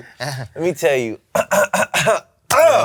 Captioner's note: clears throat